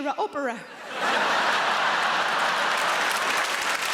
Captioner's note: audience laughing; audience applauding